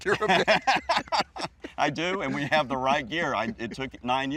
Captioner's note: laughs